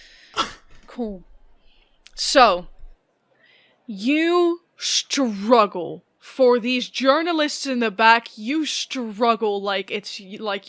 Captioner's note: deep breath